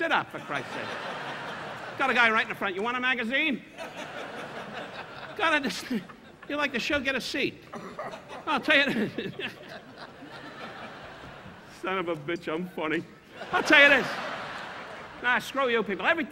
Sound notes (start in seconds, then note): 0.3 audience laughing; 7.7 Don laughing; 7.7 audience laughing; 13.2 audience laughing